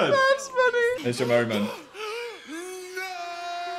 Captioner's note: Dan panting